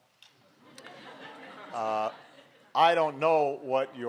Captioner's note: laughter